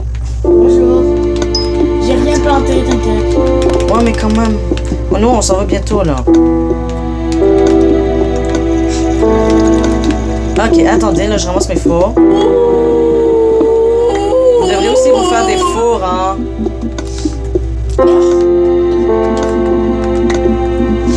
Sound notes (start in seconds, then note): 6.1 music and game sound; 12.2 howling like a wolf; 17.1 music and sound of the game